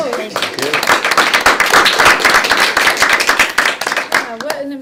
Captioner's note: speakers and attendees applauding